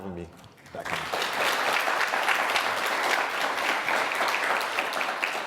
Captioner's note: audience applauds